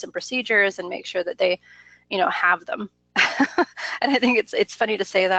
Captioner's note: laughs